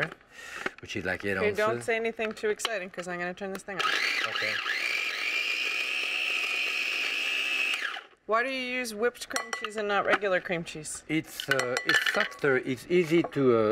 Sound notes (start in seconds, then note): 5.8 food processor whirring